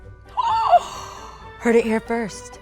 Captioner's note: gasping